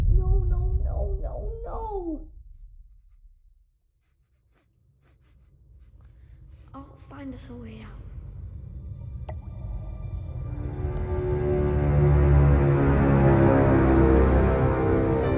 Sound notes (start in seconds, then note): 3.7 sniffling; 10.5 ominous music